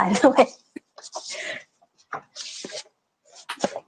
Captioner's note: laughs